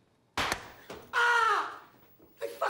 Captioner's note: screams